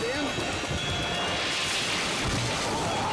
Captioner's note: branches break